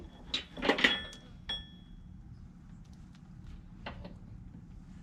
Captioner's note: metal clanking